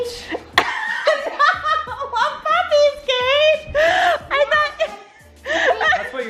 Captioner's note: laughs